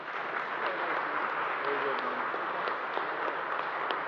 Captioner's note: applause